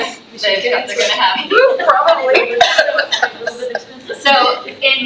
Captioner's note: laughs